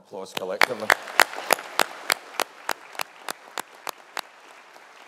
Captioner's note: audience applauding